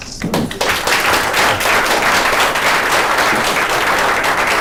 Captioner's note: applause